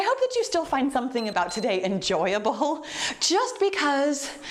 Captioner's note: timer beeps